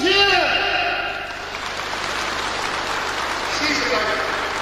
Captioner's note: applause